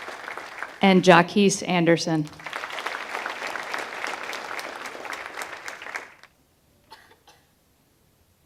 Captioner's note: applause